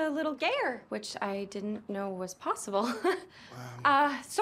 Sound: chuckles

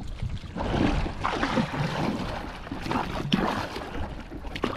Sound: water splashing

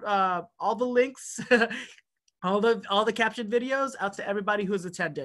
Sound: laughter

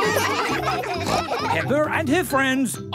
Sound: all laugh

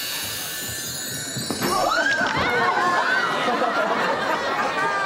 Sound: <i>screams

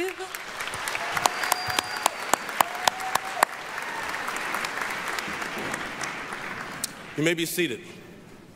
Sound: applause, cheering

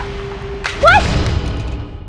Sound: screaming

